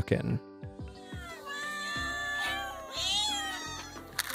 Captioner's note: cats meowing